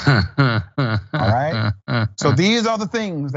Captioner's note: laugh